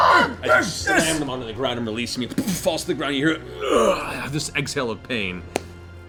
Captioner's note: pained grunt